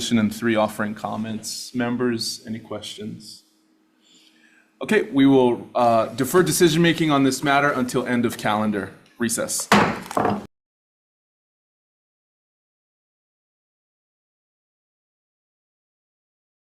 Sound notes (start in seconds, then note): 9.6 gavel bangs